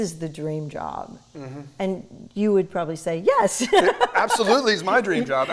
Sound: laughs

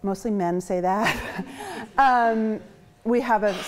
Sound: chuckles

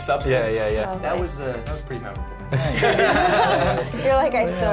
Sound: others laugh

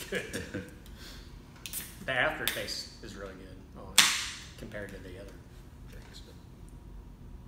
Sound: laughing; can opening

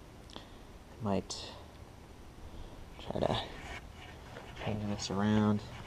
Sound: soft whirring noise

